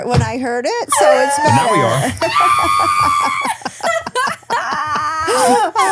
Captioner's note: laughing loudly